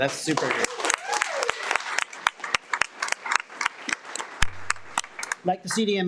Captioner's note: audience cheers and applauds